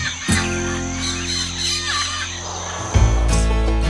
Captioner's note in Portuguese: Pássaros